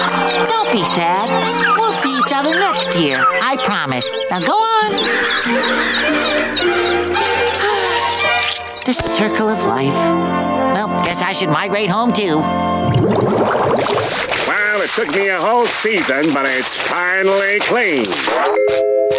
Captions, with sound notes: Don't be sad. We'll see each other next year. I promise. Now go on. [squawking] [sighing] The circle of life. Whelp, guess I should migrate home, too. Well, it took me a whole season, but it's finally clean.